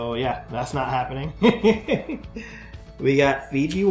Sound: laughs

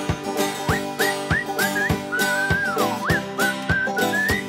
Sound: upbeat music; man whistling

